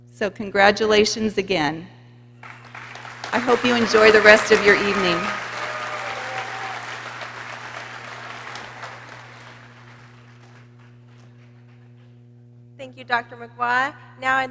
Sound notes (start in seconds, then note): 5.9 people cheering